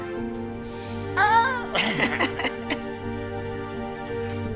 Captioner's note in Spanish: Risas